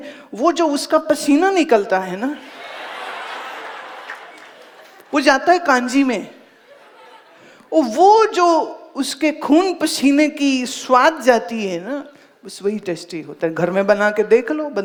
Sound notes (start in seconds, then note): 2.4 audience laughs